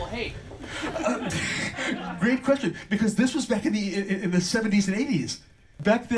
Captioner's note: laughs